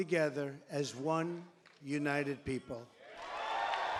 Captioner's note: cheers and applause